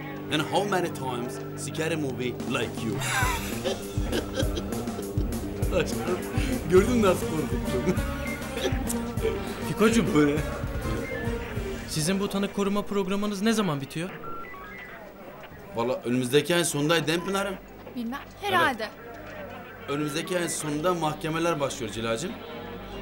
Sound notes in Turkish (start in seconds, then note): 3.4 Gülüyor